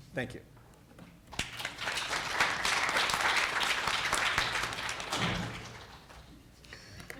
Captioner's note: applause